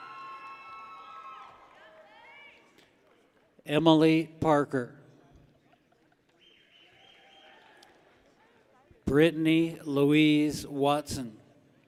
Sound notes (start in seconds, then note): 0.0 people cheer; 6.4 people whistle